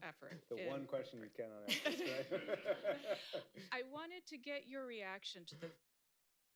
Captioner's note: laughter